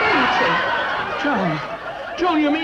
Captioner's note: audience laughs